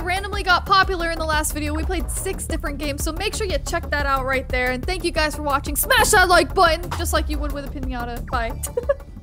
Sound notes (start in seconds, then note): 8.6 laughing